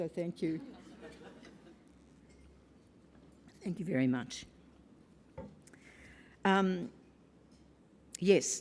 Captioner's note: laugh